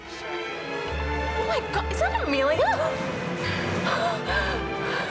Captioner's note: gasps